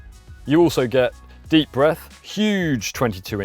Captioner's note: deep breath